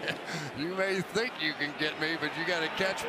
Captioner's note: laughs